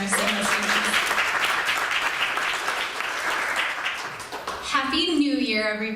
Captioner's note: applause